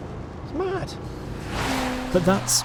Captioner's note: car revving